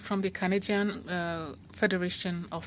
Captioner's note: speaking French